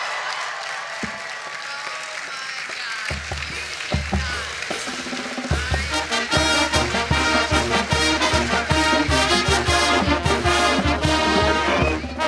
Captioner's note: cheering and applause; band music playing